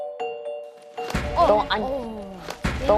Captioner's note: bang!!!